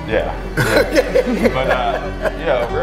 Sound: laughs

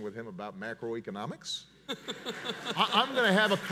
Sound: audience laughs and applauds

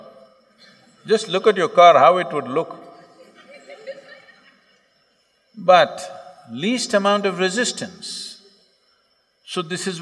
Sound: laughter

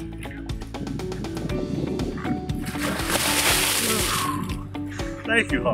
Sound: water splashing

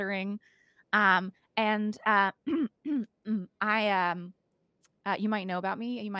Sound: clearing throat

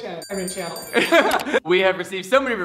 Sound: giggling

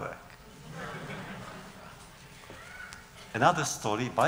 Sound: laughter

